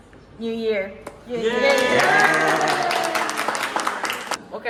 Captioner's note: cheers and applause